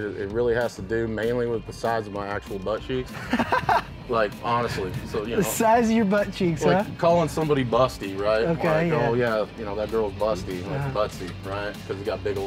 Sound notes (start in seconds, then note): 3.2 laughs